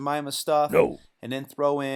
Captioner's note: gruff voice